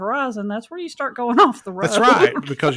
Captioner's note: laughs